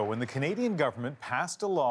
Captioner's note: applause